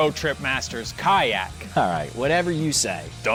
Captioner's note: laughs